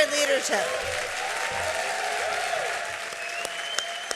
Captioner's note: applause and cheering